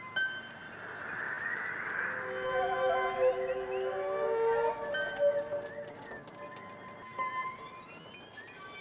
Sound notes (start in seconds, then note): 2.1 wind blowing